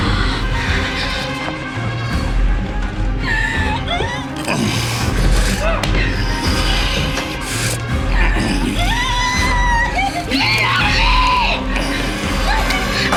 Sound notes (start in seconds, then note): 3.2 Cassandra shrieks; 3.8 Quinlin grunting